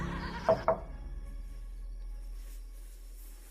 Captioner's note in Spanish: Toques en la puerta